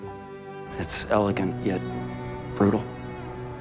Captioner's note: voiceover